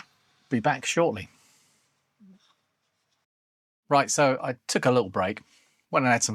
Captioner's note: silence